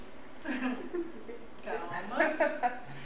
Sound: laughs

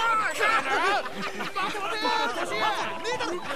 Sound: laughter

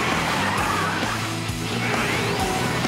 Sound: tires screech

